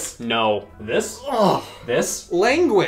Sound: grunting

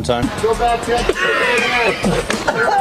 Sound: coughing

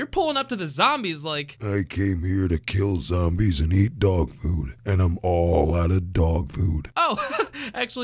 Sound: broody voice

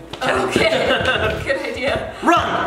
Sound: parents laugh

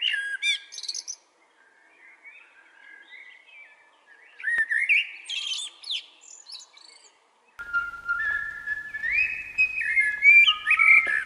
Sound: the song of a blackbird

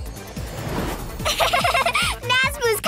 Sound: giggling

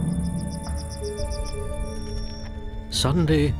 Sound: bird twitters

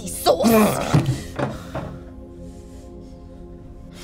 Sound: Carim growls

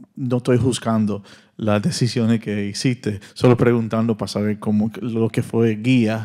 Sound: audience member continues in Spanish

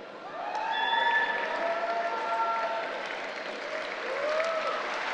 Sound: cheering and applauding

